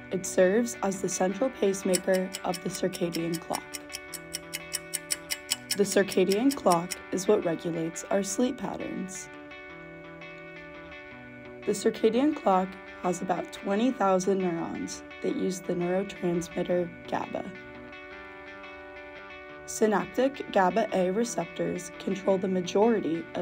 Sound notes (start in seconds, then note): 4.3 clock ticks; 18.1 light music